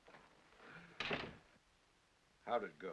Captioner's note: door closes